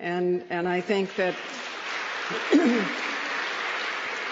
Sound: applause

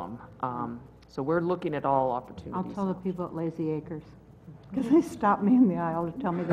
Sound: laugh

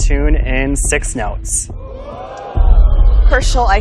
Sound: audience's impressed murmurs

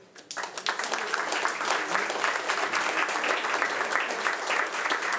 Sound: audience applauding

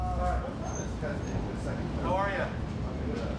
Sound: chatter

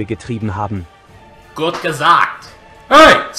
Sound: in German

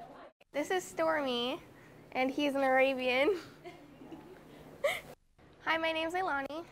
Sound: laughs

